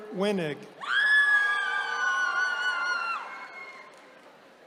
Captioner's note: attendees cheering